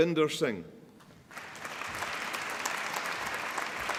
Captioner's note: applause